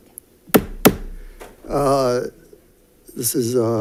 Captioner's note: gavel bangs